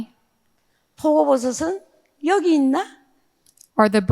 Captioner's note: speaking in foreign language